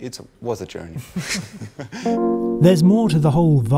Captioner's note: laughing